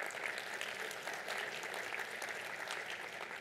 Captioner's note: applause